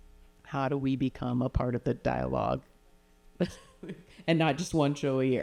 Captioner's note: chuckles